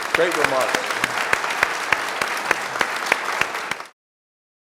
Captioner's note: audience clapping